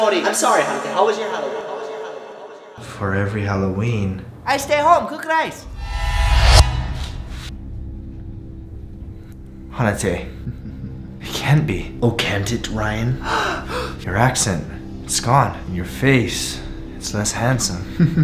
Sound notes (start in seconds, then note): 2.1 echoing; 5.6 riser; 10.3 chuckling; 13.2 gasping; 17.9 evil chuckle